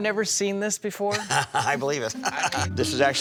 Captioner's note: chuckles